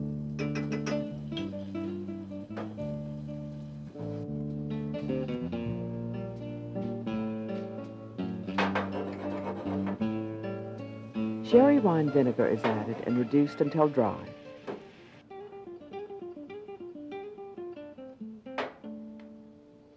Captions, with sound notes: (spoon tapping) (pan scraping) Sherry wine vinegar is added, and reduced until dry. (calm music)